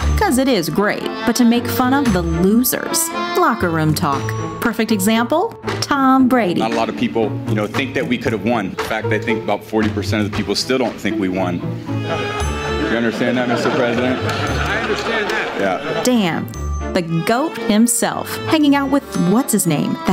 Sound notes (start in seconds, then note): 12.8 laughter